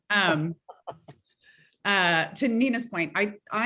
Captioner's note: laughing